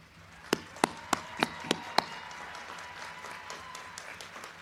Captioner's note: crowd cheering